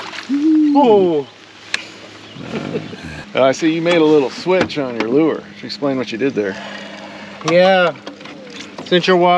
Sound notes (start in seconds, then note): 0.0 fish splashing; 2.3 chuckling